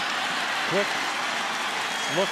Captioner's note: cheering